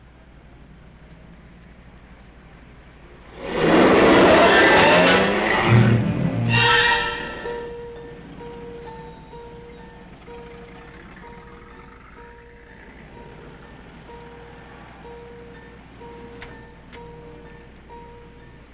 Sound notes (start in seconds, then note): 3.4 car engine revving; 4.8 dramatic music